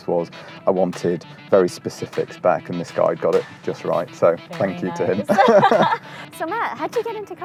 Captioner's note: laughs